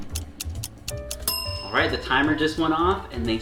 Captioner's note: timer ticks; ding!